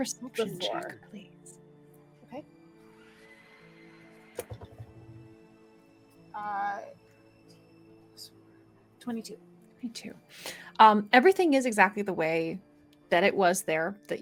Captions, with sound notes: - Perception check, please. - Okay. (dice rolls) 22. - 22, everything is exactly the way that it was there